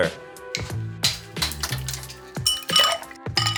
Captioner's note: ice cracking; clanking